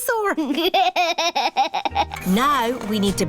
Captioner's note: chuckles